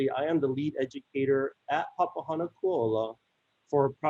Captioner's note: continues speaking in native language